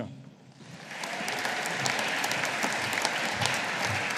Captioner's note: audience applauding